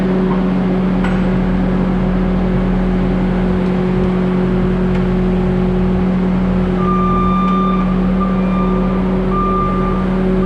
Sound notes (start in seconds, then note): 6.8 beeping